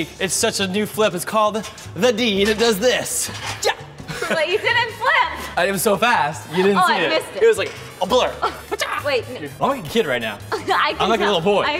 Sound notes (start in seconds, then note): 4.4 yells; 8.7 yells